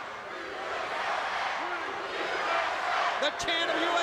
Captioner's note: crowd chants "USA"